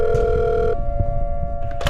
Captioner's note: rings